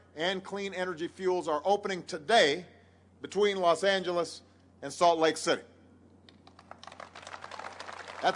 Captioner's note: applause